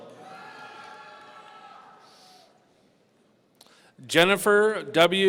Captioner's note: audience cheering